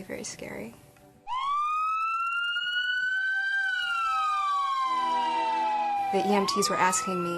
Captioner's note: siren